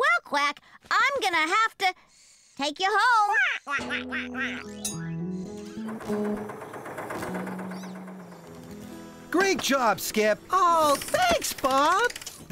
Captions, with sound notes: WELL, QUACK, I'M GOING TO HAVE TO... TAKE YOU HOME! ( Quacking ) ( Engine Running ) GREAT JOB, SKIP! OH, THANKS, BOB!